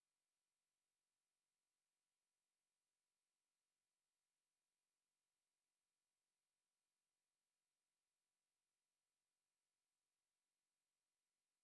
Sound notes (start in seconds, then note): none